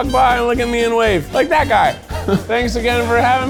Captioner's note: chuckles